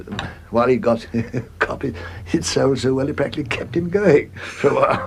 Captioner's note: laughs